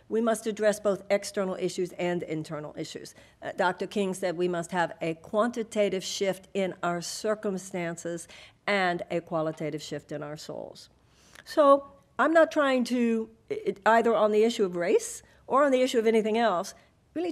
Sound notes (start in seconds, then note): none